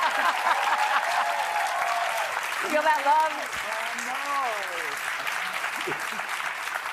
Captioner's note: applause